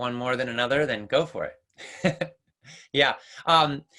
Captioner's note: laughs